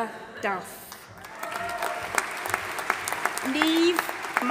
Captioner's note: audience applauding and cheering